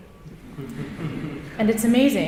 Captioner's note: audience chuckling